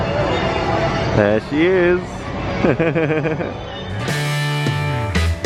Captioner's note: laughter